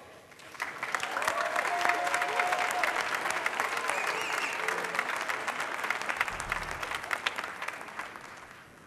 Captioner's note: applause